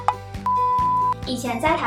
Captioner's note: beep